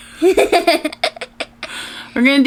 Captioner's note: both laughing